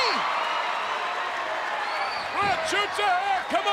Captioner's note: crowd cheering